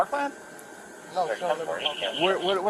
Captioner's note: radio chatter